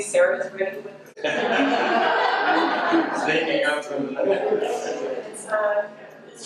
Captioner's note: audience laughter drowns out voice